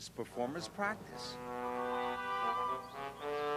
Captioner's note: whistle toots